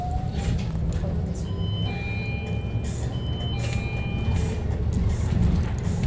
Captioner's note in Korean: 하차벨 소리